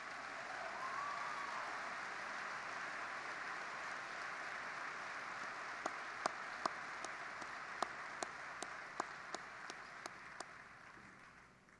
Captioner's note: applause